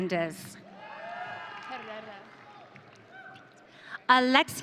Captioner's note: audience cheering